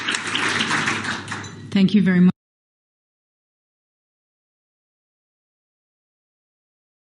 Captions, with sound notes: thank you very much. [clapping]